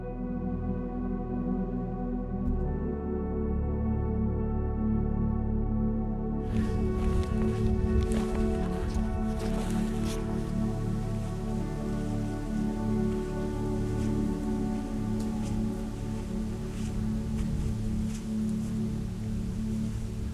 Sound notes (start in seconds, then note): 1.3 dramatic music; 9.1 wind blowing